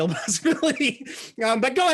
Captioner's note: laughs